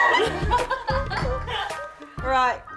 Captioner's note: women laugh